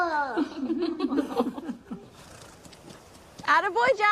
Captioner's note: laughing